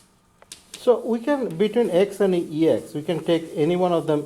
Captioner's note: voiceover